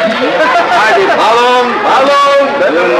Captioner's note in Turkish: Panayır ortam gürültüsü